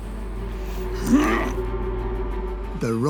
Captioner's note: he grunts